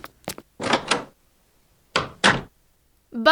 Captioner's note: door closing; door opening